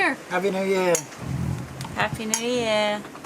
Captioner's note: glass clinks